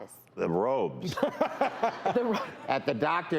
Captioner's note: laughter